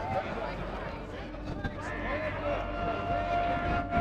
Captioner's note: crowd yelling